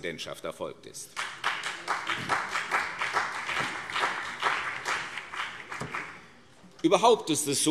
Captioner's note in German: Beifall CDU und BÜNDNIS 90/DIE GRÜNEN